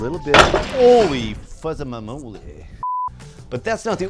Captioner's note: comical drop and crash